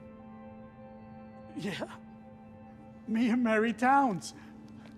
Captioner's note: laughs